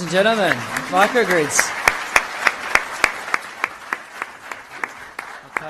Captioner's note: applause